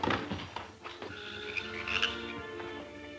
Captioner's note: crash; dramatic music